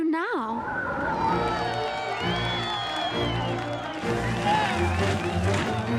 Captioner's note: cheering